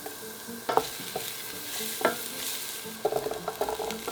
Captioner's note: sizzling